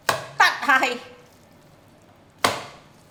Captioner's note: Cantonese